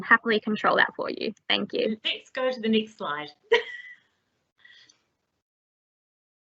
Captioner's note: laughs